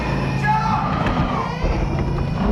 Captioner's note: banging on door; distorted babies cry